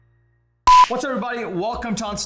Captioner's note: hand slaps